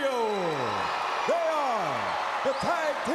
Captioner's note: crowd cheering